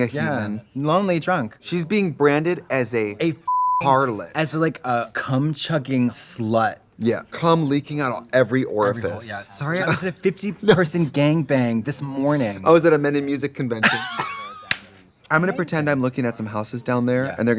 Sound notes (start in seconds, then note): 3.4 beep; 13.8 Katya laughs